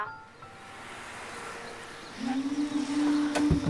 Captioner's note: Car approaching; Door opens